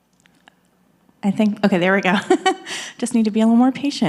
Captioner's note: laughs